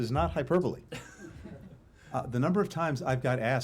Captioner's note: laughter